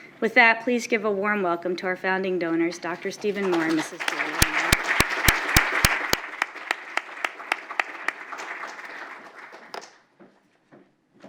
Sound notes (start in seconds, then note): 5.1 applause